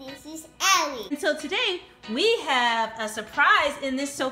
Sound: voiceover

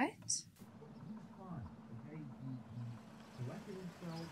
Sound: muffled chatting

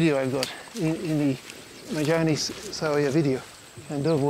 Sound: Swahili spoken audio

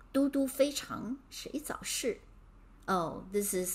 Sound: speaking in Mandarin

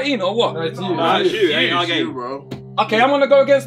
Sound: all chattering

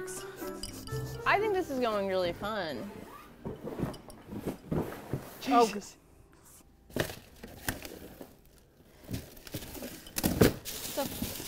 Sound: intense rustling

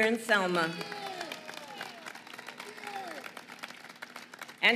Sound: applause

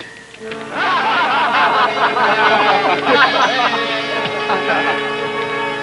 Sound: men laughing

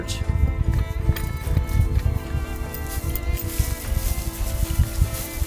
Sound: footsteps pattering

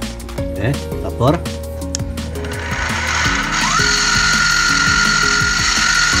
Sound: drilling machine

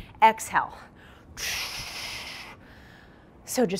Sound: heavy breathing

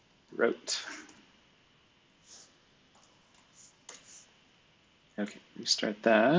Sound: computer keyboard clicking

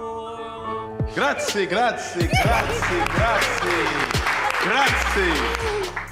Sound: everyone claps

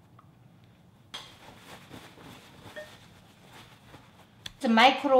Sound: paper whooshing

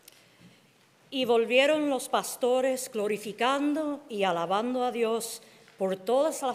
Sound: speaking in Spanish

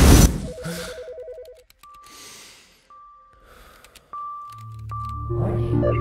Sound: suspenseful music; phone rings; tech gasps; alarm beeps

